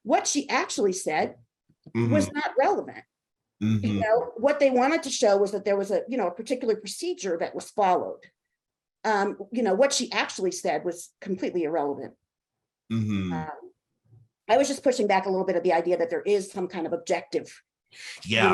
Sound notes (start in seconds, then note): none